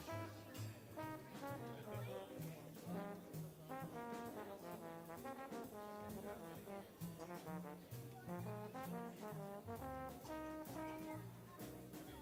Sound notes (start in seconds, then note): 1.4 people chattering; 1.4 upbeat jazz music continues